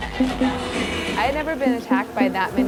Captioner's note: electronic blips; concert music